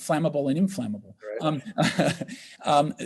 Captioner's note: laughs